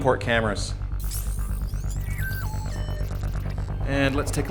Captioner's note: electronics beeping